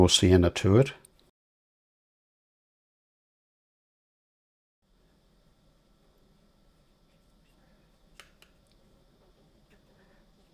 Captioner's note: silence